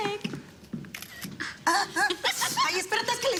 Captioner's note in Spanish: Risas